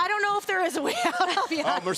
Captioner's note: laugh